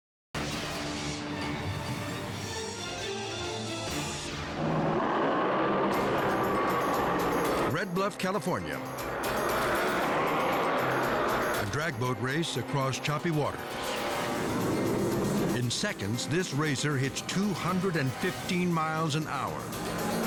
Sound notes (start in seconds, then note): 0.1 dramatic music; 4.6 jetboats rumbling